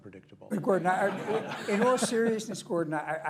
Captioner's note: laughter